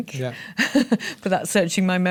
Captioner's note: chuckles